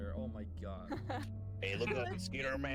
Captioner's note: laughs